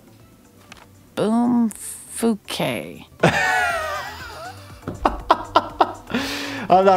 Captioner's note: laughing